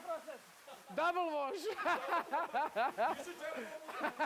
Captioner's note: laughs